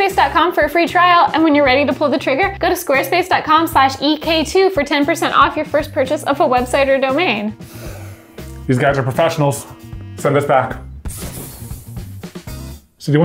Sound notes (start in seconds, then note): 7.6 interrogator sighs; 11.0 smoke puffing; 11.8 funky music